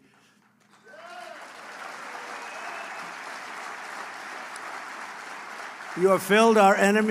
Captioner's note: applause